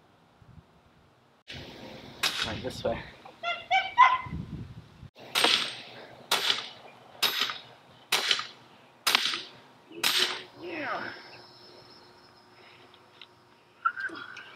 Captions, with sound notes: - Like this way. (hammer pounds)